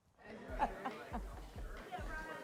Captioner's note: laughs